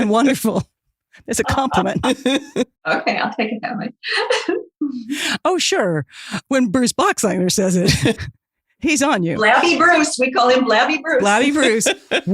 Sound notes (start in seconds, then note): 8.5 chuckles